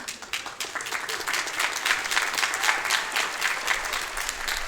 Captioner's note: audience clapping